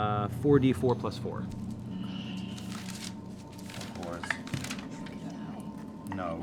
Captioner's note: whispering